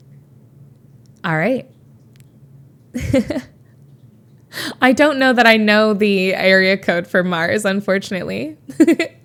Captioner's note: Emma chuckles